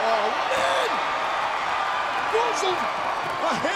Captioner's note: crowd cheers